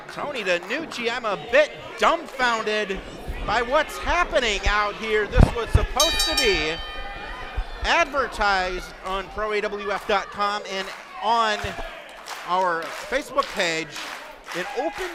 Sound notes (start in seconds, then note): 6.0 bell rings